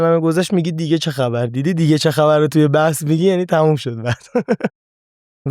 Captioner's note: laughs